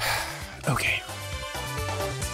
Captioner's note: sigh